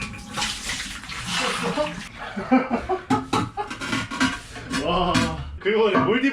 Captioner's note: throwing water into the toilet